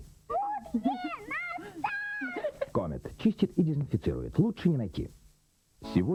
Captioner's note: laughter